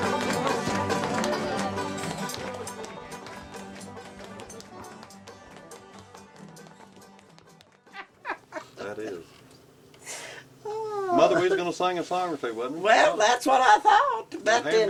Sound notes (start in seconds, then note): 7.9 laughter